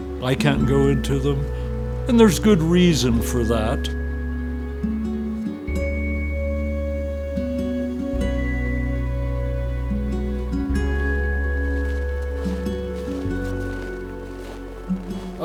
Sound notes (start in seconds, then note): 5.0 somber music; 11.1 snow crunching